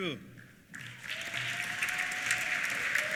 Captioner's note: applause; cheers